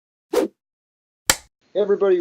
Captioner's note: whoosh, film clapper sound